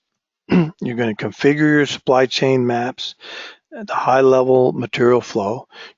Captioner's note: cough